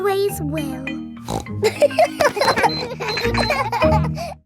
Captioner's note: snorts; kids laughing